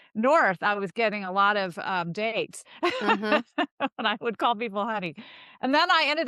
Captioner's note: laughs